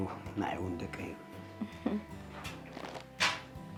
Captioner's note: laughs